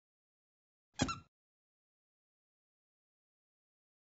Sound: squeak

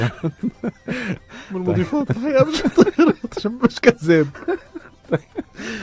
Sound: laugh!

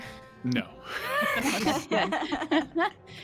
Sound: laughs

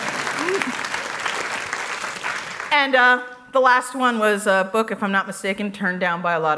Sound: applause

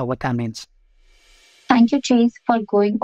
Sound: transition swish

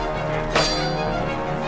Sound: metallic thwack

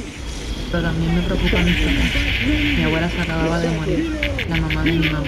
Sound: spanish

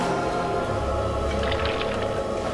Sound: water pouring

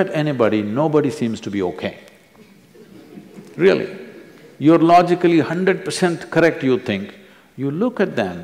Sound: few laugh

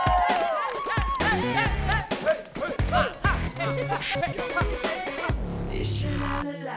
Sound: cheers; excited noises

